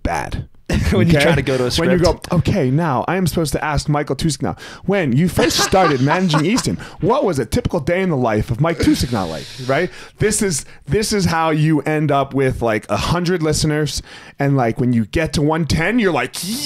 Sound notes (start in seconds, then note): 5.4 laughing